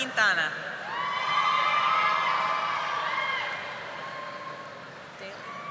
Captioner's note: audience applauding